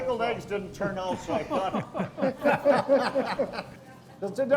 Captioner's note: everyone laughs